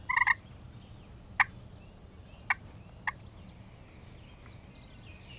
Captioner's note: turkey call